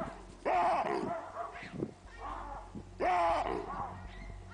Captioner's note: loud barking